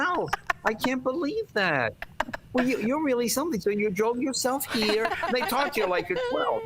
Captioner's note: laughter